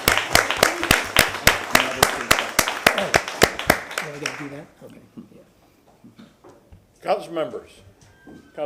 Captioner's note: applause